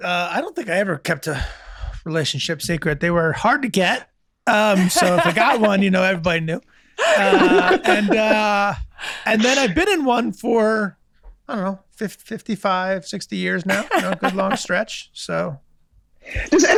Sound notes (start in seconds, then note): 4.5 Megan, Rob laughing; 13.7 chuckling